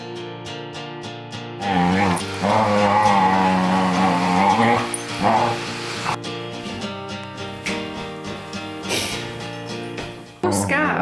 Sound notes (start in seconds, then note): 1.6 dogs playing and growling very loudly